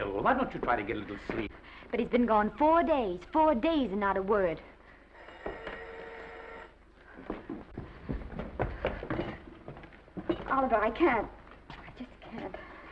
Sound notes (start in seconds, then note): 5.1 phone ringing; 6.8 footsteps approaching